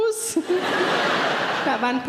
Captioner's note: audience laughing